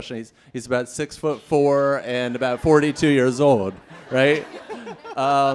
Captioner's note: laughter